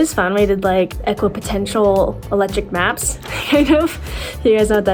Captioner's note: chuckles